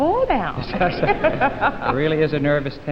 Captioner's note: laughing